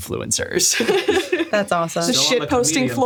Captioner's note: laughing